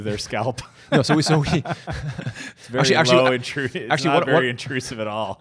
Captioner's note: laughs